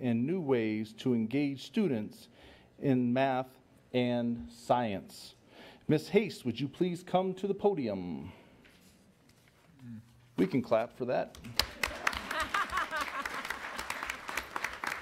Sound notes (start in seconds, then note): 11.4 applause; 11.9 laughter